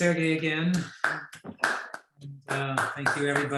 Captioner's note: host claps